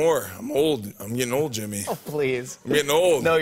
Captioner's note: chuckling